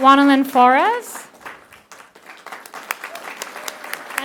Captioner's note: applause